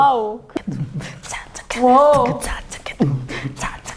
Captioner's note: beatbox